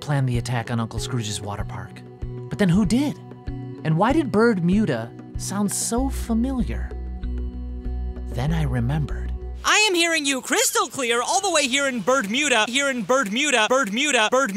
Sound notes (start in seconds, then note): 9.8 waves crashing and seagulls calling